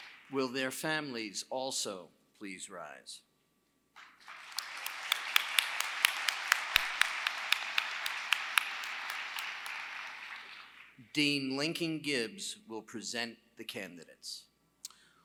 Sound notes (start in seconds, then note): 4.0 applause